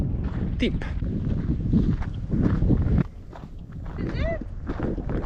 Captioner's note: wind